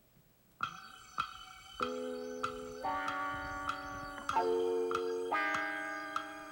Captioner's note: clock ticking